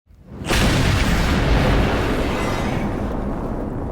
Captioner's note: explosion roaring